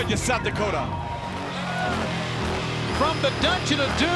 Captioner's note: engine roaring